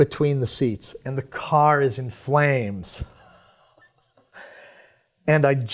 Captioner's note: chuckles